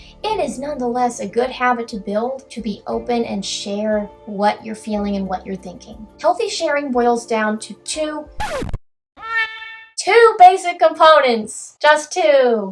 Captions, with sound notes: it is nonetheless a good habit to build: To be open and share what you're feeling and what you're thinking. Healthy sharing boils down to two... *record scratches* *cat noise* two basic components. Just two.